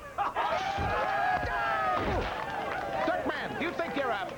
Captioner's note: all cheering